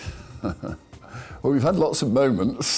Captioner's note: laughs